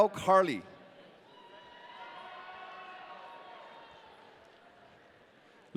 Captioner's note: audience cheering